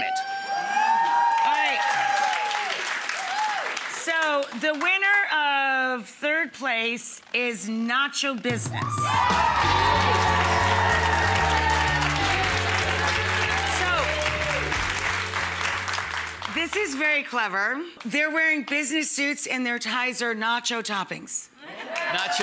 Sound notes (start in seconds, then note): 0.5 audience applauding; 8.5 upbeat music; 8.9 audience applauding